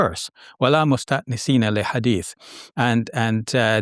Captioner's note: speaking Arabic